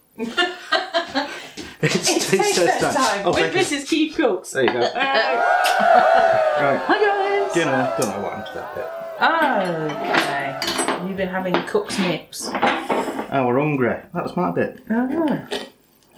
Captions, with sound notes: [ LAUGHS ] "It's taste test time with Mrs Keef Cooks" [ CHEERING ] "Right, dinner. Don't know what happened to that bit." "OK. You been having Cook's Nips?" "I were 'ungry. That's MY bit!"